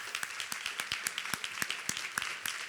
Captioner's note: applause